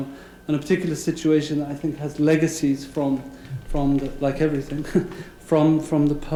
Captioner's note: laugh